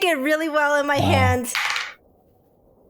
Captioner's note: sighs